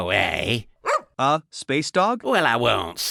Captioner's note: bark